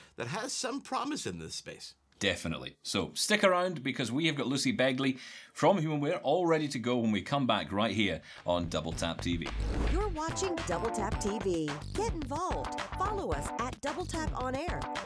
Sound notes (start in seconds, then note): 9.5 air whooshing